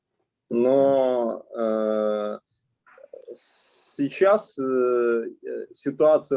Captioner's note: speaking Russian language